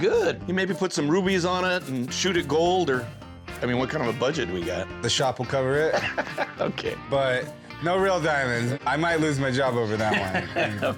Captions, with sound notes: You maybe put some rubies on it and shoot it gold, or-- I mean, what kind of a budget do we got? - The shop will cover it. - [laughs] Okay. - But no real diamonds. I might lose my job over that one. - [laughs] Okay.